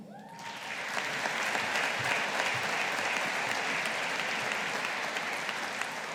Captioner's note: audience applauding